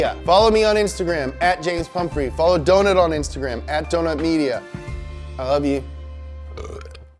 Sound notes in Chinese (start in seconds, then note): 6.5 打嗝